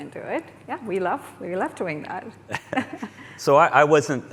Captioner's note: laughs